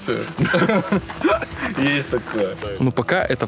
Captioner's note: both laugh